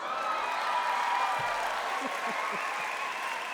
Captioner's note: cheering